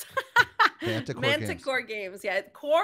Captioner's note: laughing